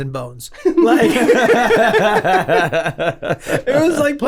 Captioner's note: laughing